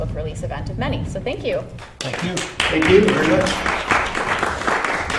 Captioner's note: applause